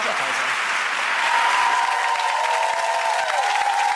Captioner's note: applause